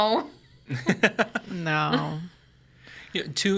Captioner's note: chuckles